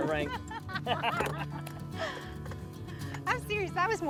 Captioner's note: both laughing together